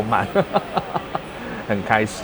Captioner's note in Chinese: 歡笑